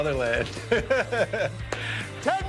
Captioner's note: laughs